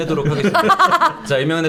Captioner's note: laughing